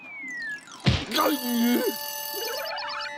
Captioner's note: exclaims; bell ringing